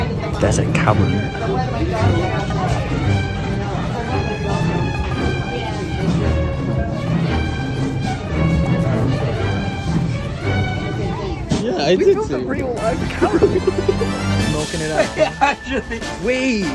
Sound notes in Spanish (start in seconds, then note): 13.2 risas